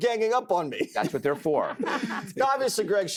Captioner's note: laughter